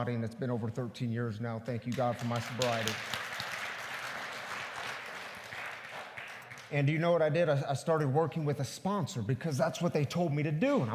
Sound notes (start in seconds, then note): 4.4 congregation applauds